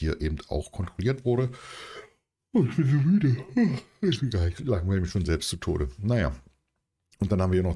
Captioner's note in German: gelächter